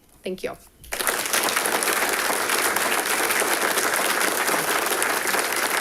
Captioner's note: audience applauding